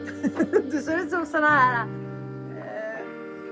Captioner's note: laughter